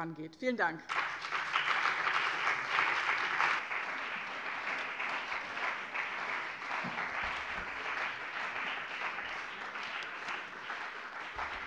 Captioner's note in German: Beifall bei dem BÜNDNIS 90/DIE GRÜNEN und der CDU